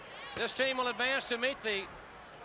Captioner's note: crowd chatter